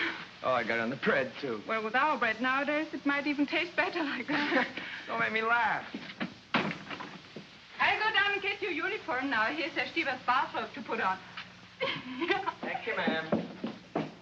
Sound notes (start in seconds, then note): 6.5 door closes; 11.8 Frederica giggles; 13.9 scurrying footsteps